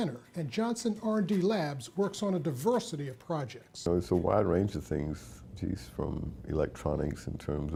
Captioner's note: none